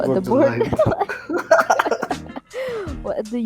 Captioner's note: giggles